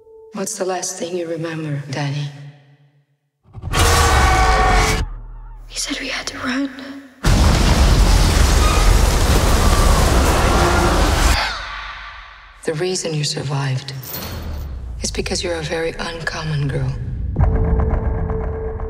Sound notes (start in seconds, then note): 3.7 screams; 11.4 gasps